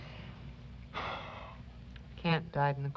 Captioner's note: sigh